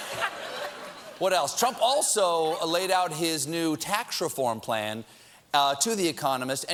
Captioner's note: laughter